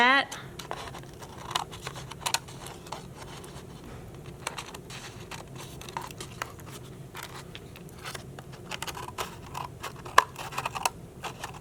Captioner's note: scissors cutting